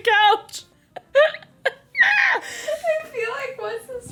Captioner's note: laughs